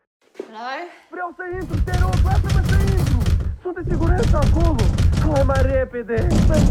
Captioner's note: speaking in foreign language; banging on door